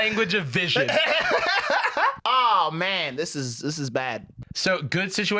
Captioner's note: laughs